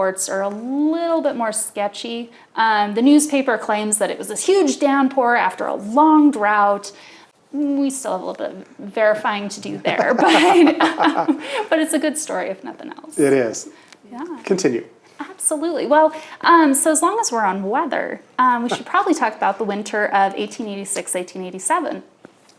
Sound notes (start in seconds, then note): 9.6 both laughing